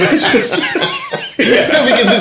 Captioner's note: laughing